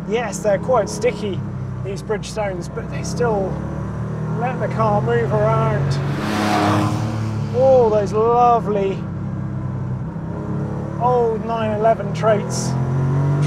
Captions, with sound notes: Yes, they're quite sticky, these Bridgestones, but they still let the car move around (engine roars) all those lovely old 911 traits